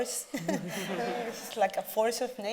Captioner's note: audience laughing